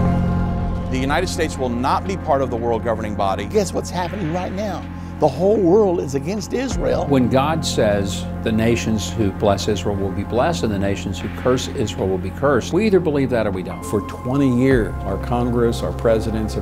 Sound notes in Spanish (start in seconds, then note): 3.7 Voz en off masculina